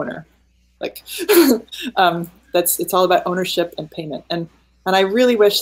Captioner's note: laughing